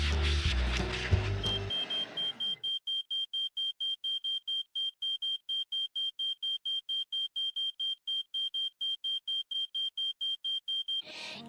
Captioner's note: smoke Alarm Sounding